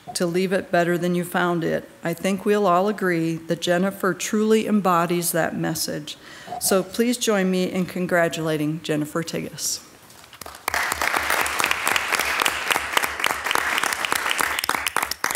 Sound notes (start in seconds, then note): 10.4 everyone clapping